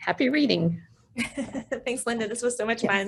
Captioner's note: laughs